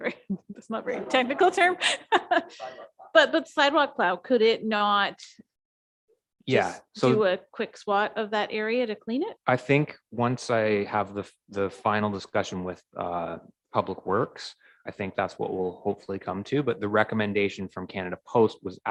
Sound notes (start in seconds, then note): 1.4 chuckling; 10.1 murmurs